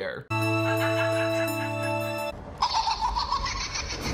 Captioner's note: laughs; creepy robotic laughter